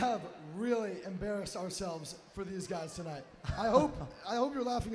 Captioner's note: cheers